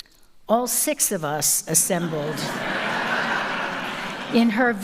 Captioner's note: audience laughs